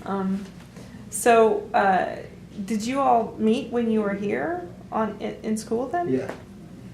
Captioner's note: laughs